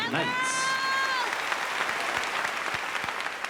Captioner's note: cheering and applause